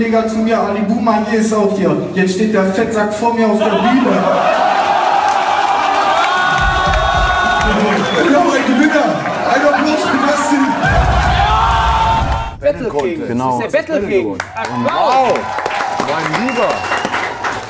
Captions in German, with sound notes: "Jetzt steht der Fettsack vor mir auf der Bühne." (Jubel, Applaus) "Und der heutige Gewinner, einen Applaus für Dustin!" Battle-King. - Du bist der Battle-King. Wow! - Applaus! Mein Lieber!